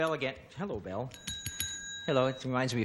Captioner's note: bell ringing